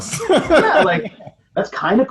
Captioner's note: laughing